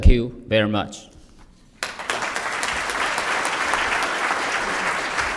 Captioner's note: applause